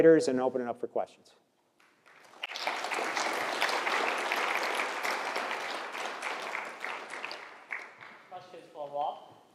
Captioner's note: applause